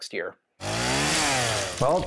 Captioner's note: chainsaw sound